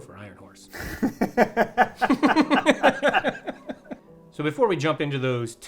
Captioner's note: both laughing